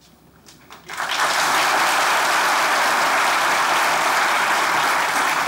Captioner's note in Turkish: Alkış sesleri